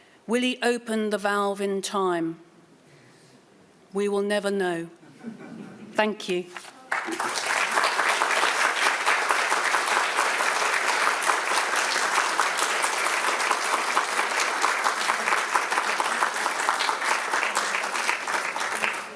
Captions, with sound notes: Will he open the valve in time? We will never know. (audience laughing) Thank you. (audience applauding)